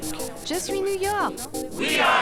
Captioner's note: French